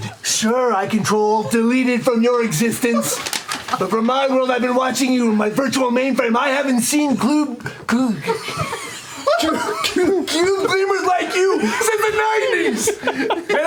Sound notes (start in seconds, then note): 8.1 laughter; 8.2 stutters